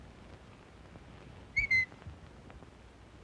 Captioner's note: whistle